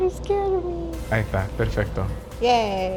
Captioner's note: speaking Spanish